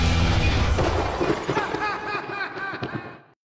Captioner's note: lightning strikes; laughs